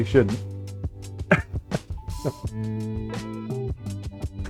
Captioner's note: laughs